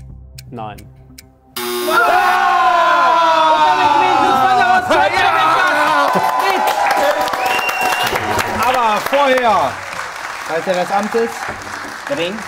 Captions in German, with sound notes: Nein. Damit gewinnt Lutz van der Horst, KORREKT oder WEG, das Quiz mit Tisch! (Jubel, Applaus) Aber vorher ... Walte deines Amtes. - Trink.